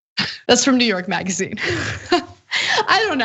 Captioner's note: laugh